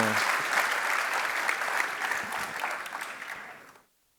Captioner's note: applause